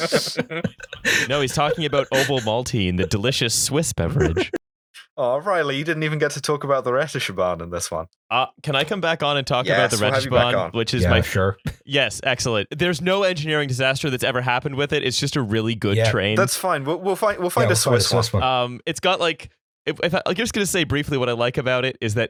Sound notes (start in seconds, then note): 0.0 laughter